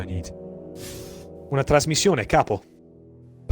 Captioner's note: renzo speaks italian